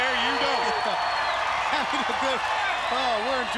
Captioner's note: crowd cheering